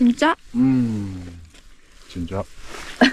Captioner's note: satisfied sound